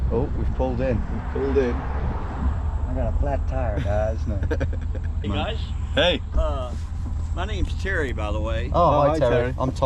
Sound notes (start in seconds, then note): 3.4 American accent; 3.8 laughing